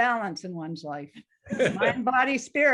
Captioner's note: laughing